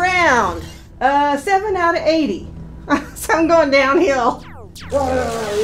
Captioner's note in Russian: смеётся